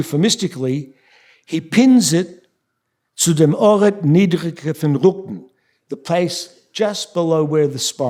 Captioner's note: speaking yiddish